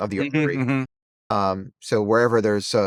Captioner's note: hums